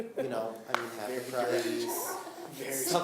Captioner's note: laughing